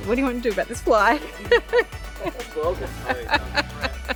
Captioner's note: laughing